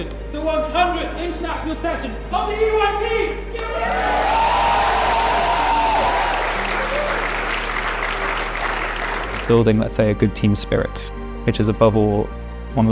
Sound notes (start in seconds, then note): 3.6 applause